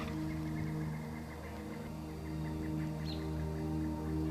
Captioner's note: birds chirping